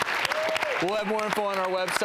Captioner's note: applause